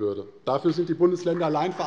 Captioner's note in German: Beifall bei Abgeordneten der CDU